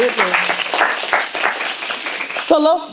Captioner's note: applause